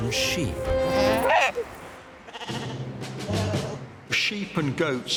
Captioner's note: sheep baaing